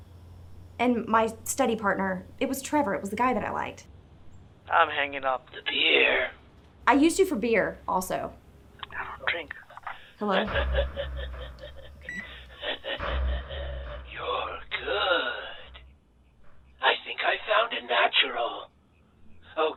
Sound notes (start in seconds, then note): 11.8 evil laughing